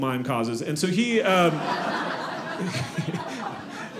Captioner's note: audience laughing